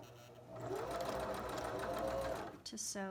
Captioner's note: sewing machine hums